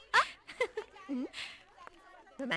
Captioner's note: chuckling